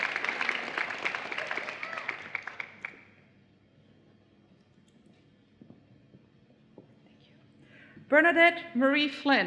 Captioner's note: applause